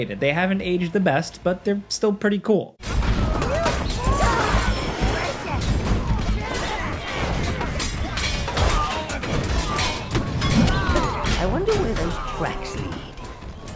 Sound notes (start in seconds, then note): 3.1 grunting and screaming; 5.8 metal clanking